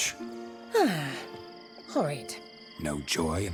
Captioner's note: sigh